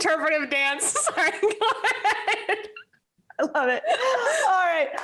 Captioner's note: laughs